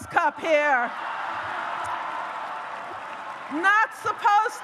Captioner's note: audience cheers